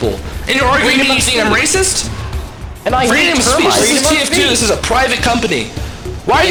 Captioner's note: overlapping chatter